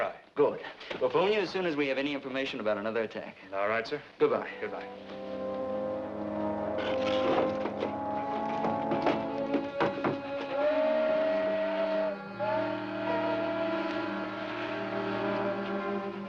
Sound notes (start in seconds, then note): 5.9 dramatic music; 10.4 train horn blowing